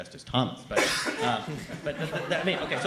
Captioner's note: chuckle